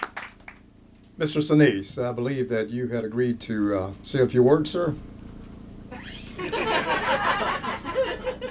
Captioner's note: laughter